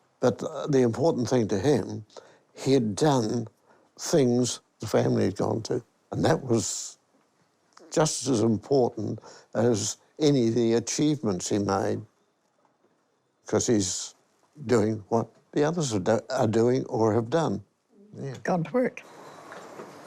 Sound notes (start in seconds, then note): none